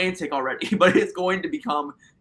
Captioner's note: laughter